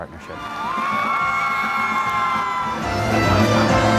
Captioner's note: audience cheering; uplifting music